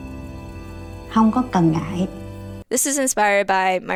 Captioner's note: calm instrumental music; grandmother speaking in foreign language